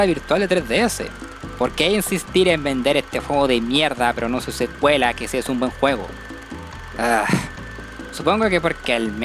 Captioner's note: sigh